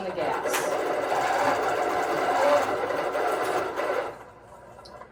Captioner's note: sewing machine running